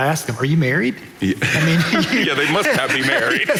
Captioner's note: audience laughing